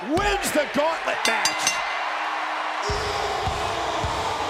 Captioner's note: bell dings